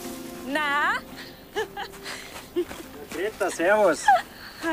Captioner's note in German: lacht